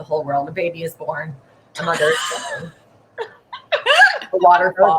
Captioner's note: laughing